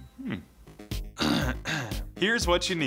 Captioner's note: clears Throat